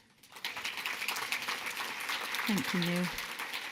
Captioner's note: audience clapping